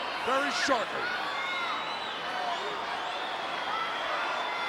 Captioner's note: crowd yelling